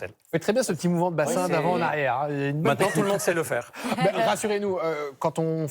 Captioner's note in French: rires